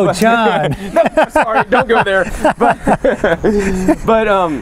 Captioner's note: laughter